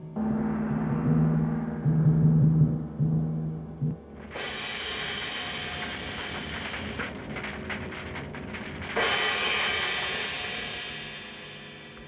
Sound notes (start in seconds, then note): 0.0 gong chimes; 4.2 flames crackling